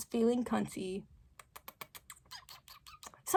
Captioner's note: kiss kiss kiss kiss kiss